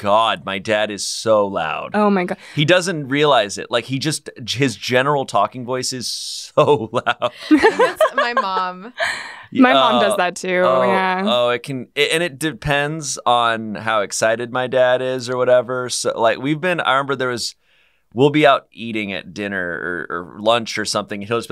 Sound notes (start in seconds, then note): 7.1 laughs